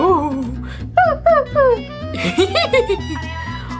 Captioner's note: Scooby whimpuring